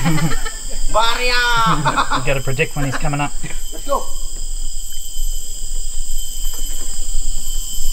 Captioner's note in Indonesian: laugh; laugh